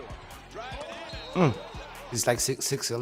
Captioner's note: cheering